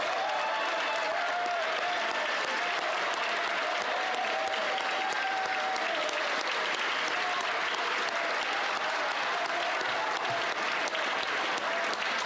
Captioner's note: applause